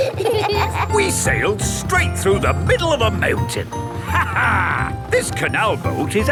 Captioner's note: laughs